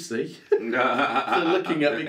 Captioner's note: laughs